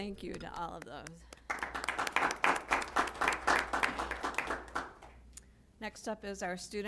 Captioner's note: applause